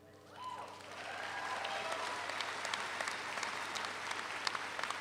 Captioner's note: audience applauds